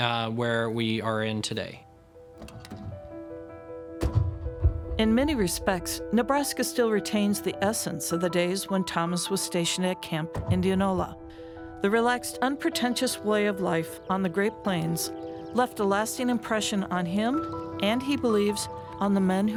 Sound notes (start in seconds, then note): 4.0 car door opening and closing